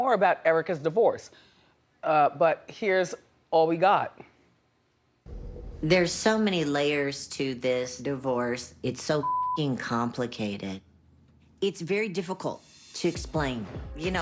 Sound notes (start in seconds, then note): 9.2 beep